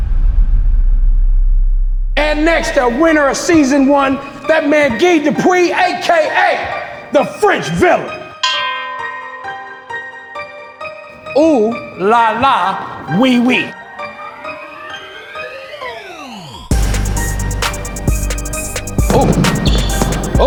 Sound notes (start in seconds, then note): 8.7 bell ringing; 14.3 intense music